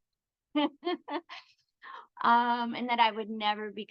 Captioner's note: chuckles